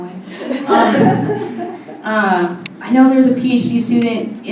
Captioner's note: laughter